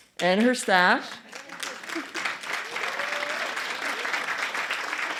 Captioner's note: applause